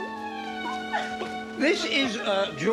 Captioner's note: sobs